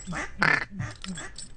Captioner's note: ducks honking